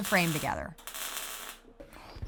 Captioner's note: sizzling, crackling sound